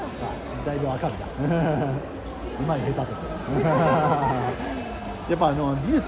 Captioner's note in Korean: 웃음